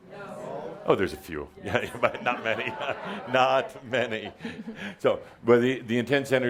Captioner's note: Adamus chuckles